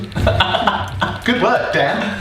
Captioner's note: laughing